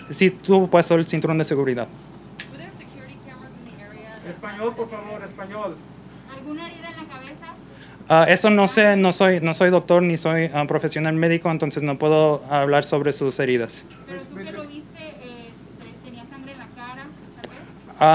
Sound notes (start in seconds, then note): 4.4 off screen in Spanish; 6.2 reporter in Spanish; 14.2 reporter in Spanish